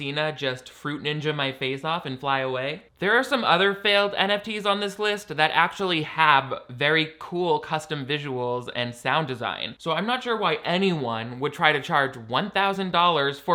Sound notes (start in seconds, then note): none